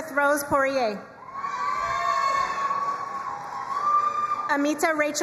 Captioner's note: crowd cheering and applauding